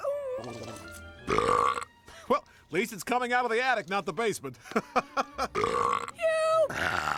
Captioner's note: belches; laughs, Belches; burps